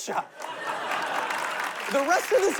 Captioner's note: laughter, applause